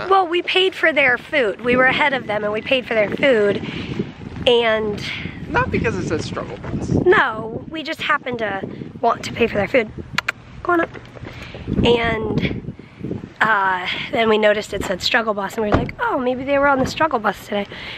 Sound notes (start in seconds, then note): 10.1 smooches